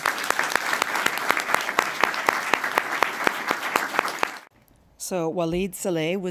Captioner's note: applause